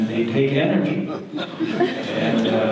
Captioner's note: audience laughter